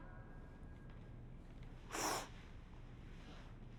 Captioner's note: sniffles